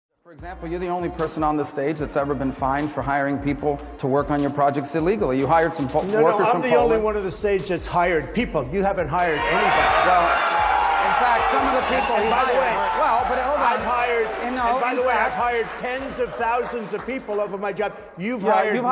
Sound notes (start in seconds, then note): 10.0 applause